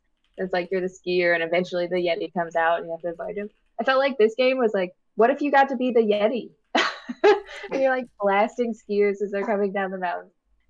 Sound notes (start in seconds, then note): 6.7 laughter